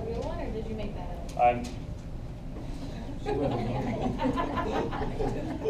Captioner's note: laughter